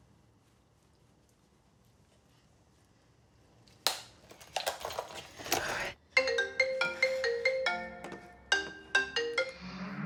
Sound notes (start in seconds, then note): 3.6 makeup rattling; 6.0 phone ringing